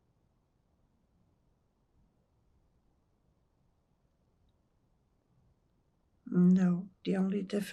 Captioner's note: pauses 6 seconds